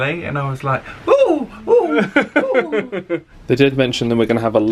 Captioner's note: laughing